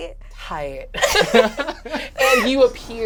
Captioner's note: all chuckle